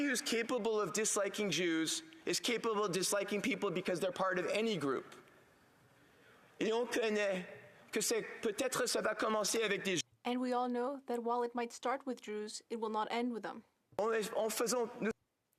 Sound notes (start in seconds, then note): 12.0 speaking French